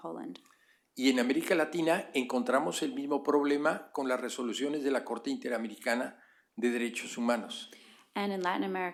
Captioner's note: speaking spanish